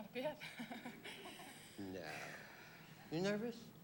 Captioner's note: chuckles